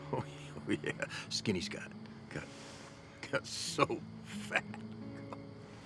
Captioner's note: chuckles; gentle somber music